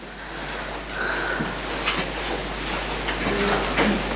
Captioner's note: sighs